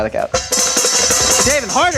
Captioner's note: pan clanging